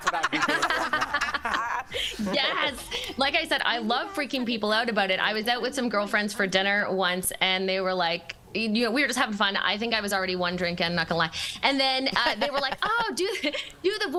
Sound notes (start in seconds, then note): 3.7 laughter